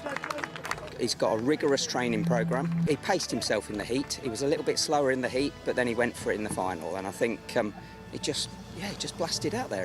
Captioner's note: applause